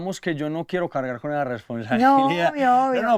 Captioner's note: laughs